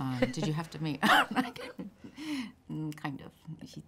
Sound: laughs

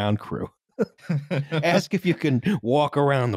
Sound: both laughing

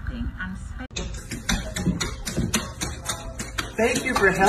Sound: paws tapping on wood floor

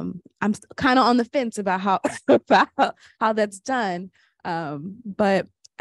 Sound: laughs

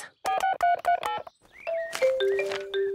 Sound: phone beeping

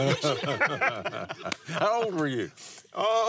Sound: laughs

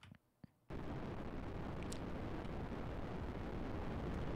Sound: loud rumbling

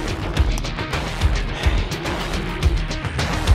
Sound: sighs

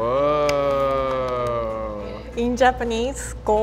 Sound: claps

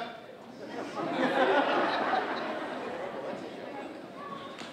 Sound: audience laughing

